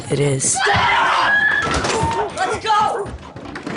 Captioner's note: girl screaming